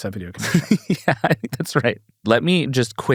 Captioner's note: chuckles